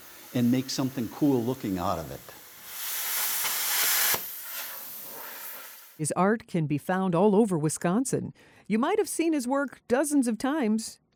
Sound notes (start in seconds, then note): 2.6 soldering iron fizzing